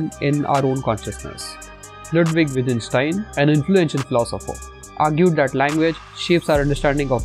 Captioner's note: voice-over